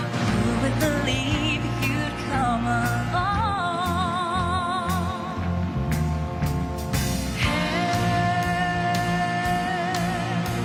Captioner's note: cheers and applause